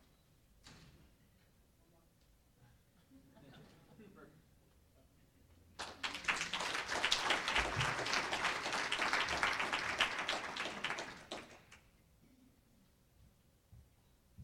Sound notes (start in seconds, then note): 5.7 applause